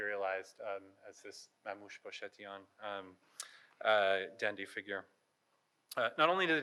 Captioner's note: speaking in foreign language